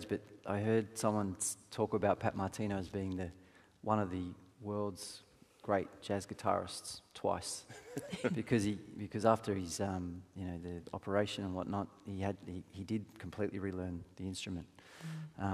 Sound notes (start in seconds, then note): 7.7 panelists laughing